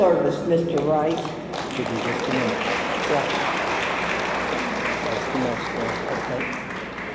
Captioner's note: applause drowns out speech; audience applauds